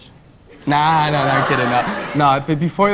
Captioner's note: audience laughs